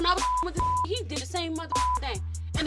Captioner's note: beep